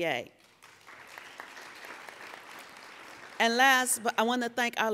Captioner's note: applauding